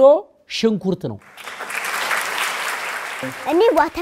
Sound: applause

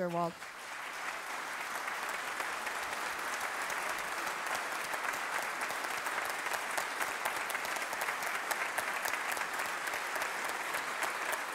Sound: applause

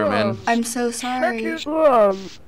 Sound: remorsefully

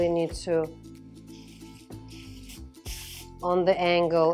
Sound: spritzing

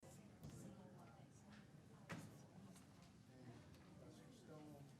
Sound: people chattering softly

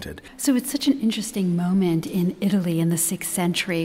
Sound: voiceover

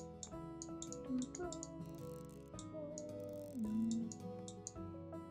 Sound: background sound humming

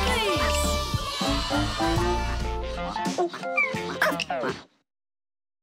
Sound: children cheering

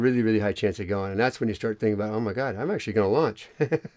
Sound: laughs

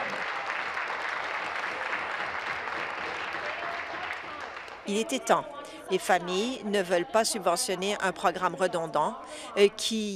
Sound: applause

